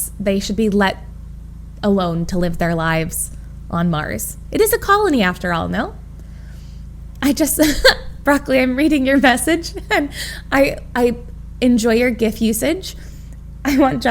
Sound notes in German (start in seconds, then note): 7.4 Emma lacht